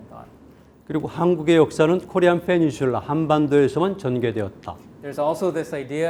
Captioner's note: speaking in Korean